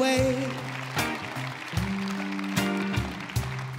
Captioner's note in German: Applaus